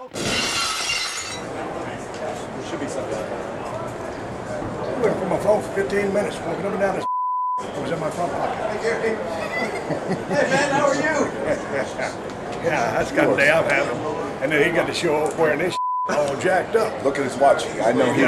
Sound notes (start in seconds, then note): 0.1 glass shatters; 7.1 beep; 9.7 Rock chuckles; 11.4 chuckles; 15.8 beep